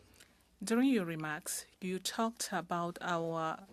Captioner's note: speaking french